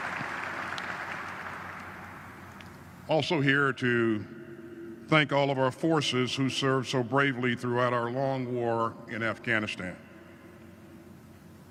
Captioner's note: applause